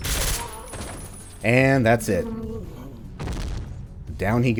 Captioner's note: dying sounds, THUD